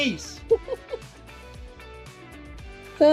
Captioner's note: laughing